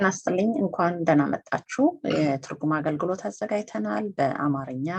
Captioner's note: speaks in foreign language